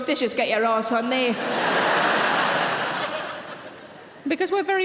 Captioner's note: audience laughing